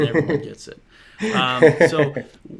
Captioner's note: laughs